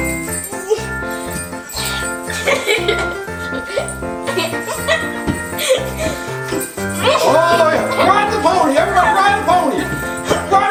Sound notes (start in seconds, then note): 0.2 jolly Christmas music; 3.7 giggles